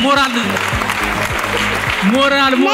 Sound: applause

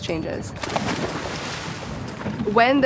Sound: water splashing

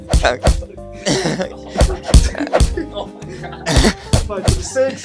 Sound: laughing; punches & laughing

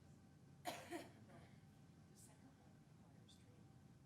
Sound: woman coughing

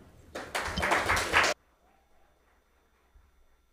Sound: audience applauds

